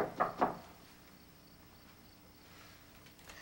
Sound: knock on door

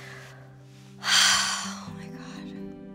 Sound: sighs

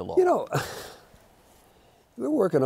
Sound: chuckles

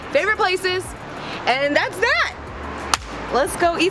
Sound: claps

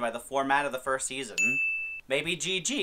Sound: ding

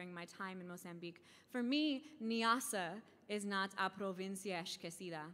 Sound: speaking in foreign language

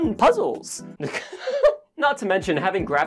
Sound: laughing

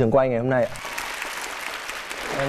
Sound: clapped hands

